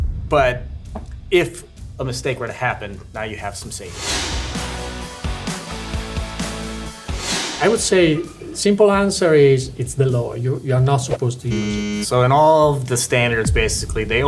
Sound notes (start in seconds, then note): 4.0 lively music; 4.0 screen whooshing